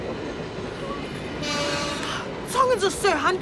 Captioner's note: train horn blares